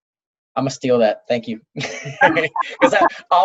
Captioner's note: laughs